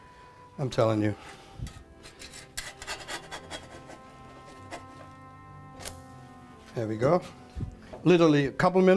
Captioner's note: scraping